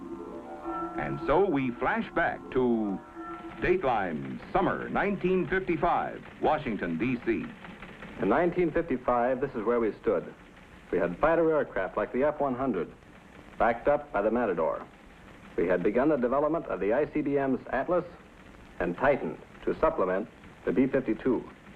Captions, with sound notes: [background music]And so we flash back to: Dateline Summer 1955 Washington DC. In 1955 [teletype sounds] this is where we stood. We had fighter aircraft like the F-100 backed up by the Matador. We had begun the development of the ICBMs Atlas and Titan to supplement the B-52.